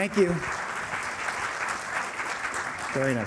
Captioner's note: applause